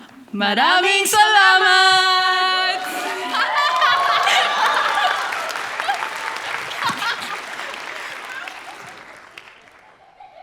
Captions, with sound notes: Maraming salamat! [Applause]